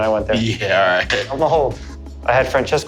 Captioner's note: chuckles